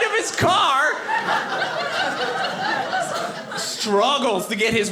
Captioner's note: audience laughing